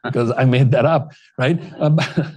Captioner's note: laughter